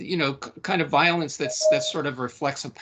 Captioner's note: beeping